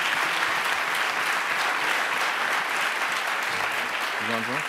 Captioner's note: audience applauds